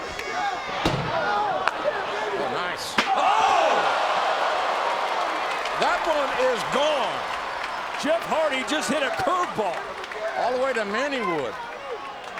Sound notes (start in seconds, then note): 3.1 audience groans; 3.4 chair thuds; 5.2 audience clapping